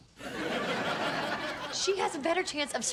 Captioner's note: audience laughs